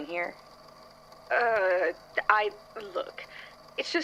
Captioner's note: groans